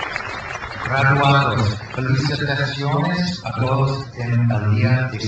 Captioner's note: speaks in foreign language